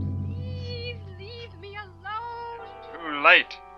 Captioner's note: woman on Radio; man on Radio